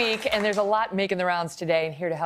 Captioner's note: cheers and applause